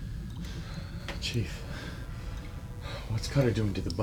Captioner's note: water dripping